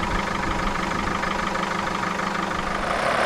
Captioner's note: engine noise